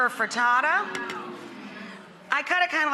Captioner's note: audience aweing